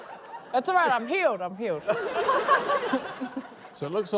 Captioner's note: laughter